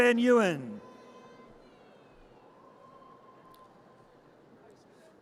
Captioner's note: audience cheers